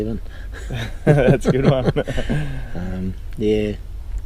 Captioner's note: laughter